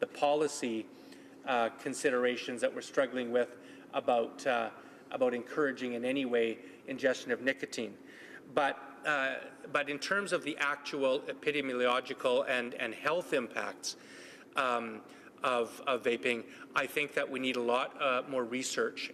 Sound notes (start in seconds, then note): none